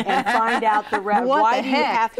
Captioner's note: laughs